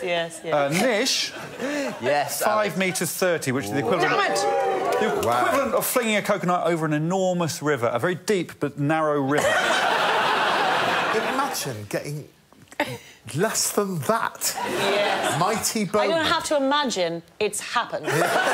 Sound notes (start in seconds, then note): 9.3 laughter